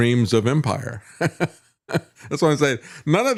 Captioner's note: laughs